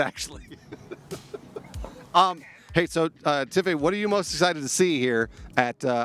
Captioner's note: laughter